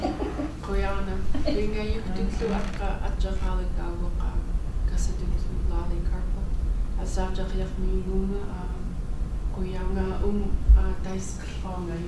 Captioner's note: speaking in Native language